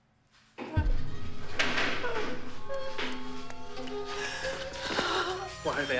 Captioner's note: intense music; Martha whimpering